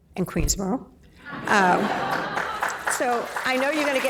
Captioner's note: laughing